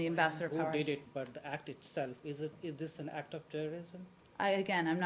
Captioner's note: off-mike